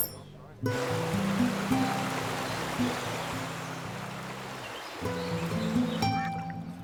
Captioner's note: birds chirping; water rushing